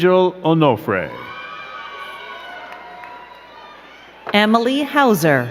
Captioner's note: crowd cheering and clapping